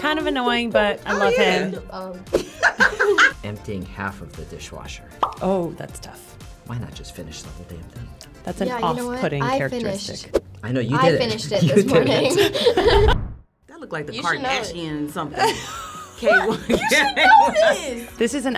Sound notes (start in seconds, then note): 5.2 bubble pops; 12.2 chuckles; 15.4 laughs